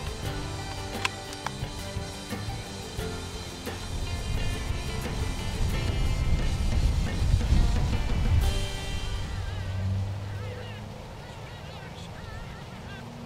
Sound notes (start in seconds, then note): 0.8 gun clicking; 9.9 rabbit call whistling